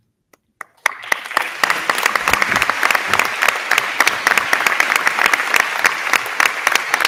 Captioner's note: crowd clapping; crowd cheering